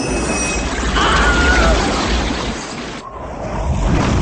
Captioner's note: tornado Sound; screaming while in the tornado